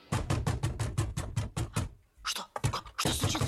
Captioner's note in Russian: стук в дверь